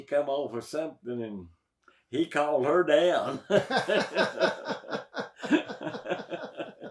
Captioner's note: both laugh